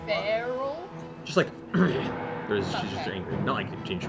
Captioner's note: growls